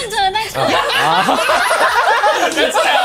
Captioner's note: Laughs